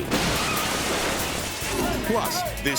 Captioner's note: plane thuds